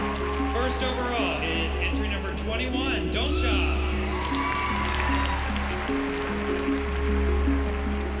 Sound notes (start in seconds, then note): 4.0 cheering and applause